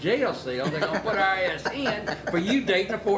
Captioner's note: people laughing